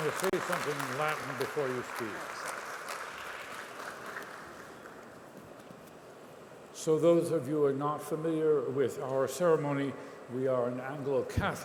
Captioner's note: applause